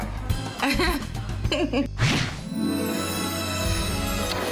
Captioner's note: laughing; romantic music